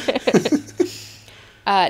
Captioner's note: both laughing